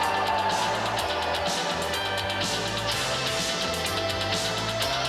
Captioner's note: crowd cheering